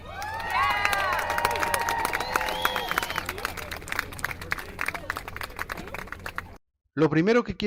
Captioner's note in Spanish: Se oyen aplausos y vítores